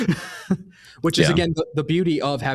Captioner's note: laughs